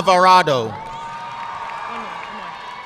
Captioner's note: audience cheering and applauding